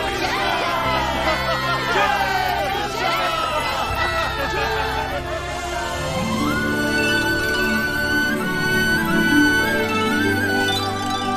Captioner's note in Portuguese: Aplausos